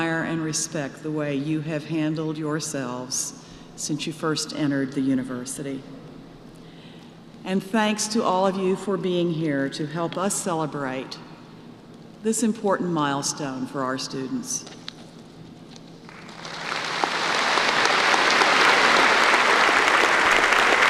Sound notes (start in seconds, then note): 16.0 applause